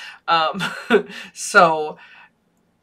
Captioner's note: laughs